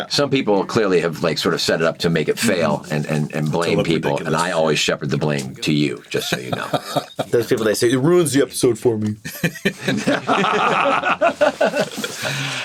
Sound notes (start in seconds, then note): 6.1 laughs; 9.2 all laugh